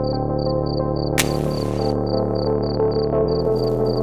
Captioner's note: striking match